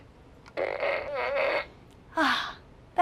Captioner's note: fart